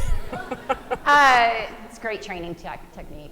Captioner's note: laughing